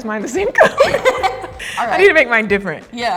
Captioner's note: both laugh